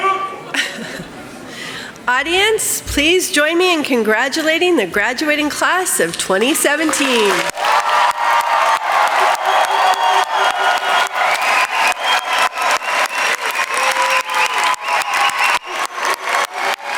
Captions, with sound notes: Audience please join me in congratulating the graduating class of 2017! [crowd cheering] [cheers and applause]